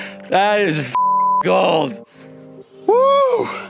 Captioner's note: beeps